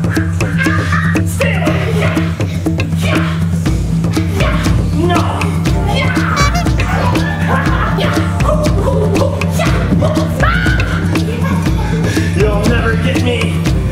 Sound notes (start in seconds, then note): 7.7 laughs; 10.5 yells